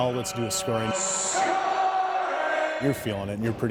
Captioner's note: crowd cheering